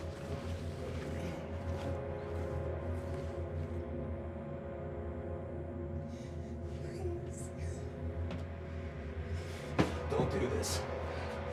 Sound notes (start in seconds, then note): 0.1 tense music; 9.0 sobs